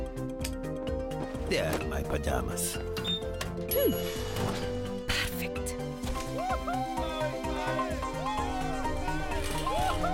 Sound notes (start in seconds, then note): 0.1 clicking; 2.9 beeping; 4.5 sniffing; 6.3 cheering